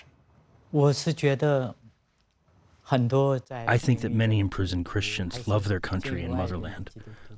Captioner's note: through translator